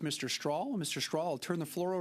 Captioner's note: speaking French